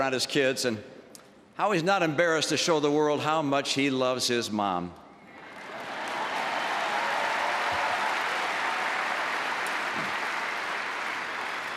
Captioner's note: applause